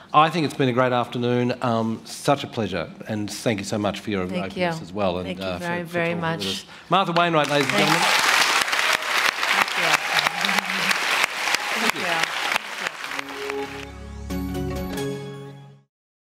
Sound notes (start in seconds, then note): 9.1 audience Applause; 13.1 tone